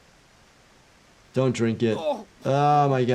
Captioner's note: character grunting